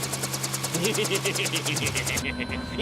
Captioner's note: laughs